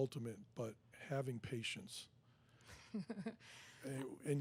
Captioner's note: giggles